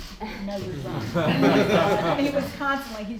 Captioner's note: laughter